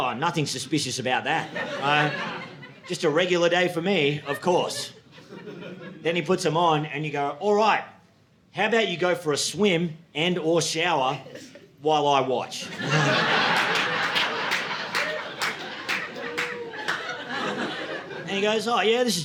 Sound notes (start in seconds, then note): 1.3 audience laughing; 12.6 audience laughing